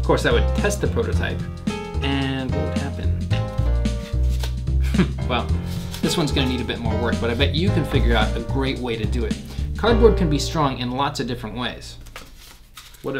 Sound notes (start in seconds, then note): 4.8 chuckles